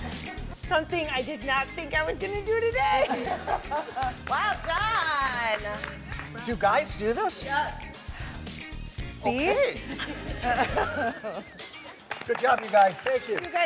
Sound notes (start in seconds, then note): 2.8 laughing; 9.8 all laughing